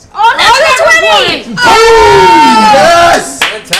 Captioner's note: cheering